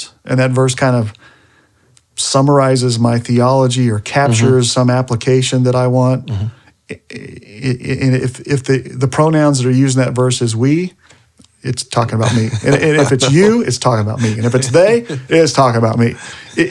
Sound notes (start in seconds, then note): 12.1 laughing